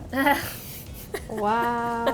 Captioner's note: laughing